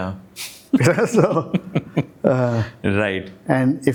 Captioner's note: laugh